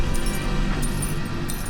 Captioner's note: shoes clinking